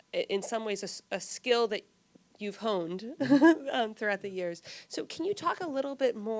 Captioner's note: chuckles